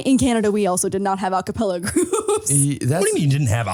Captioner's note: laughs